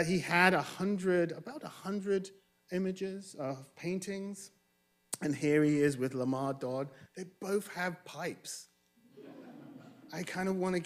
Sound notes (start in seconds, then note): 9.1 audience chuckling